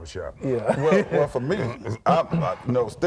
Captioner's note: laughs